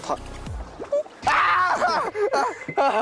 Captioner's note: screams